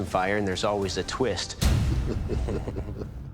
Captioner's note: laughing